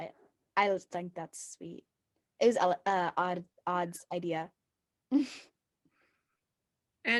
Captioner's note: chuckle